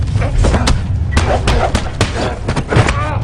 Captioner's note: pounding